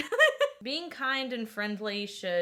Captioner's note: laughing